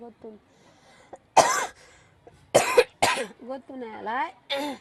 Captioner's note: coughs